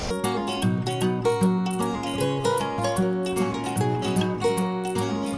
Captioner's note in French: none